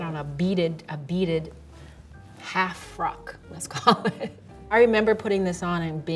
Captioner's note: laughs